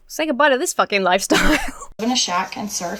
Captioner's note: laughs